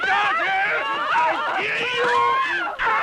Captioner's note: screaming